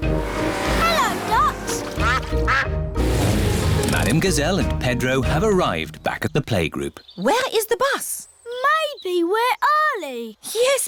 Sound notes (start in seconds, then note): 1.8 quacking